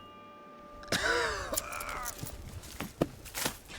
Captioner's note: Jack coughs